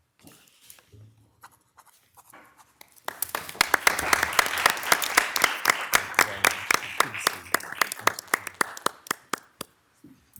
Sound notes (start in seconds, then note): 1.8 pen scratching; 2.9 all clapping